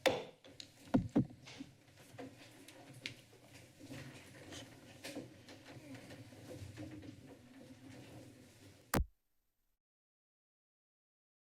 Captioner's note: silence